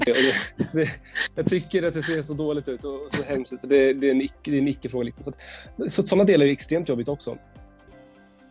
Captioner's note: laugh